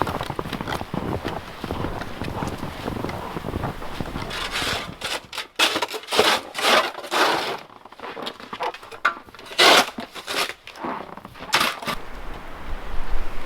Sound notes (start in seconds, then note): 0.3 snow crunching; 9.4 shovel scraping